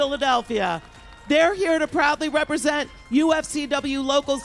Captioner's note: applause